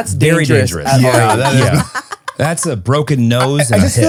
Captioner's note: laughs